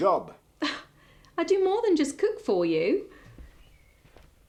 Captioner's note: scoffing